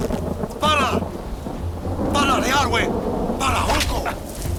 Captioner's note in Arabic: الصوت المنطوق البدوي